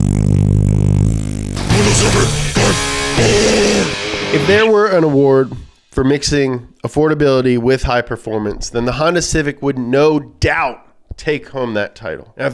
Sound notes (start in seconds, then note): 1.8 demonic Voice